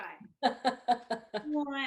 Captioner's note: laughs